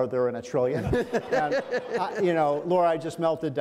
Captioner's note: men laugh